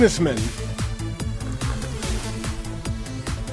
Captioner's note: sipping coffee